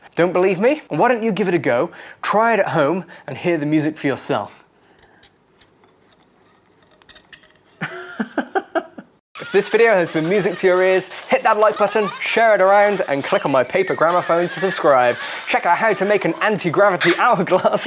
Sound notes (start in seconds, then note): 5.6 very faint scratching and music; 7.8 laughing